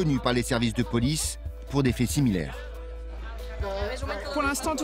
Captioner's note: Spanish spoken audio